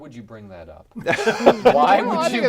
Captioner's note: laughing